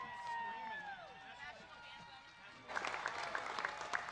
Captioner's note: applause